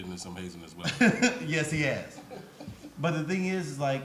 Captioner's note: laughs